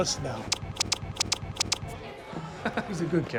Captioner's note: smooching